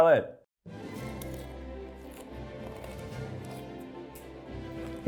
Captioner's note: lettuce crunches